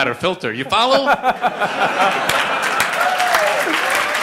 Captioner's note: laughter; applause